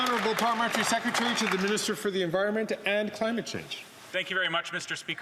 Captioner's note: some Applause